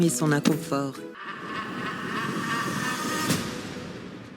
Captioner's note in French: Rire de sorcières